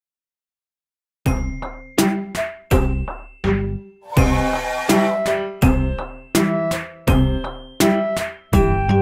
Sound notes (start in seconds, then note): 4.0 loud train whistle